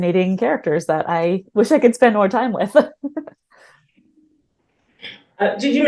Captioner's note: chuckles